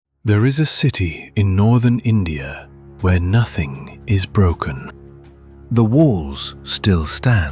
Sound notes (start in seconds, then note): 0.0 thoughtful